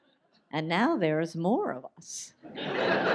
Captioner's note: audience laughs